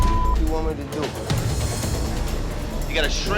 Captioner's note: beep